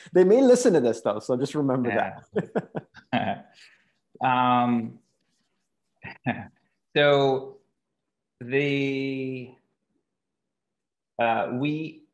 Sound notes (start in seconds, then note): 1.9 chuckles